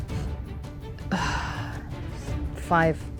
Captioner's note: sighs